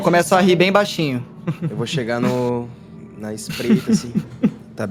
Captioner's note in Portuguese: Risadas